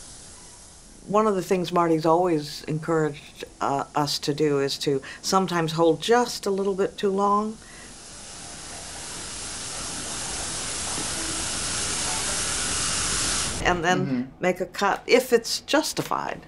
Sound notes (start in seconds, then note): 0.0 water sizzling; 8.4 water sizzling